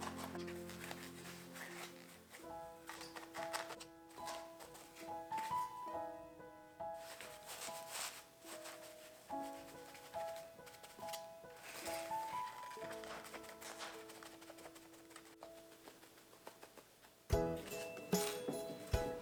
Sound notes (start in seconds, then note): 10.4 poke, poke, poke